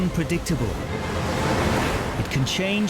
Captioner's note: boat engine revving